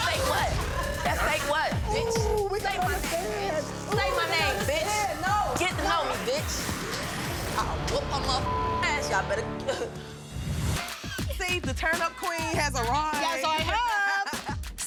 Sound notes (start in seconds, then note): 8.3 beep